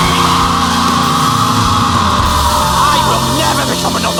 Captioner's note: scream